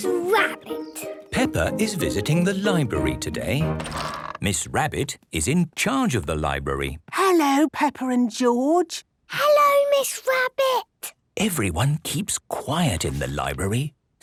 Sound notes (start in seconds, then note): 6.9 whispering